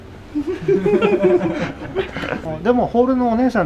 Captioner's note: laughter